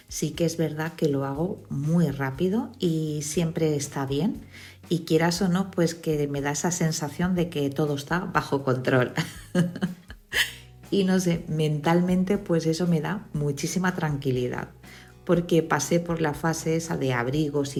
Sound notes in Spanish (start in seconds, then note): 9.2 risas